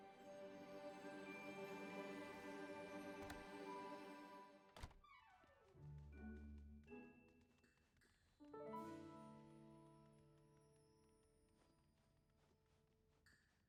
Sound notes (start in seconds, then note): 0.0 ambient game sounds and music